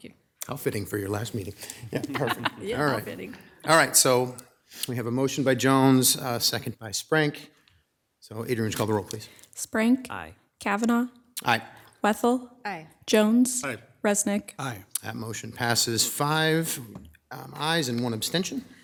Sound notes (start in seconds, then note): 1.6 chuckles